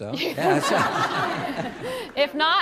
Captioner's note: audience laughs